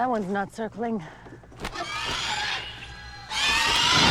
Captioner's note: weak squawk